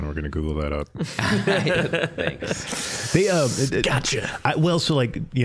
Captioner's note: all laughing